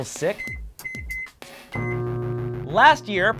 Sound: beep

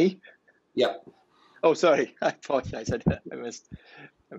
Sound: laughing

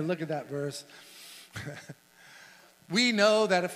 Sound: chuckles

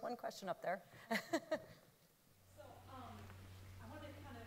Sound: laughs

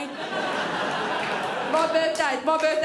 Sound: crowd laughs

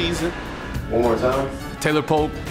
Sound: voiceover

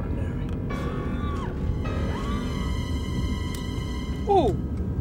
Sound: woman screaming

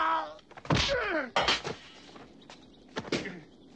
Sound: hitting; yelling; hitting; grunting; grunting; hitting

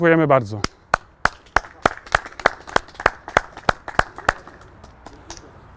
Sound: clapping

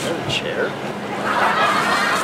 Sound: laughter

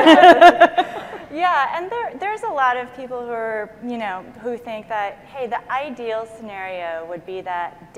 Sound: laughing

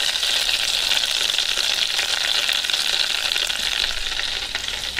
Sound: oil continues sizzling

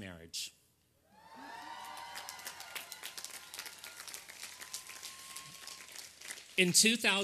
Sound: applause and cheering

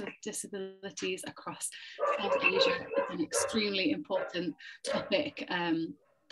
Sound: dog barking

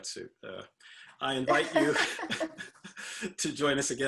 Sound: laughing

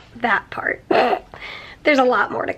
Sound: snorts

